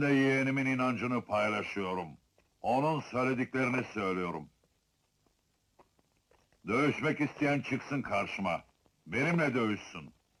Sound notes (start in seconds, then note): none